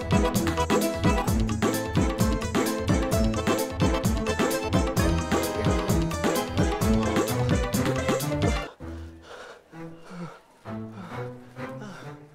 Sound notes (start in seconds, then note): 8.9 panting